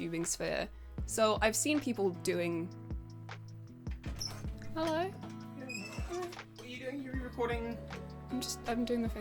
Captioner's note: door opens